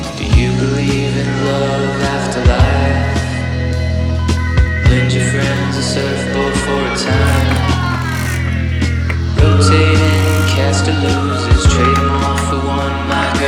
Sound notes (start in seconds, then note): 7.4 blinds clanking